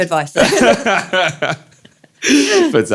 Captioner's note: both laughing